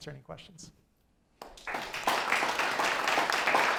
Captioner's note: applause